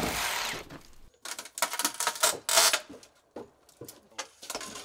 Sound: plank cracking

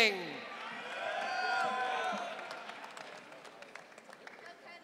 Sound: audience cheering

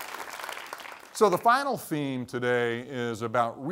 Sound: applause

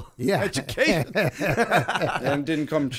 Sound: laughter

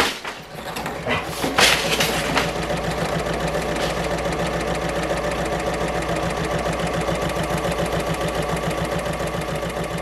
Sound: sewing Machine Sounds

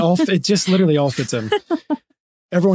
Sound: laughing

